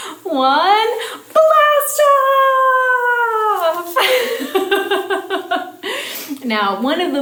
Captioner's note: laughing